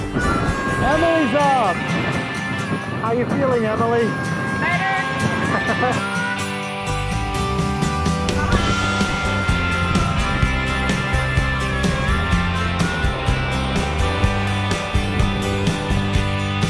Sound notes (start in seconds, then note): 5.4 laughs